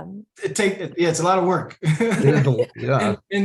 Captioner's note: laughs